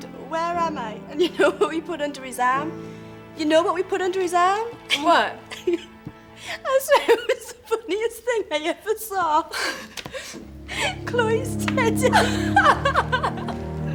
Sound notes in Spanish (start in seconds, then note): 5.4 riendo a carcajadas; 11.5 riendo